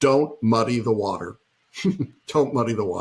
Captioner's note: laughing